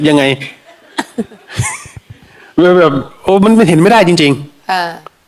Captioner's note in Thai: เสียงหัวเราะ